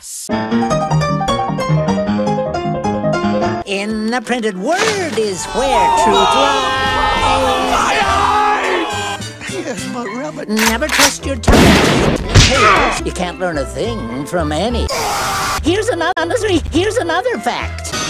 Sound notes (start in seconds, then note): 11.5 shotgun Sounds; 12.1 punching Noises; 14.9 Tigger Screaming